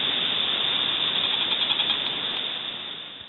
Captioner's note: wood creaking